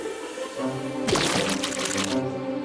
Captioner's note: squish!